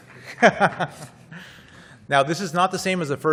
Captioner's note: laughs